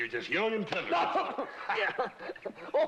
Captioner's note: yells